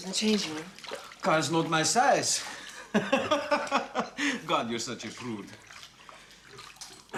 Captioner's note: laughs